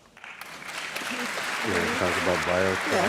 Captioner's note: applause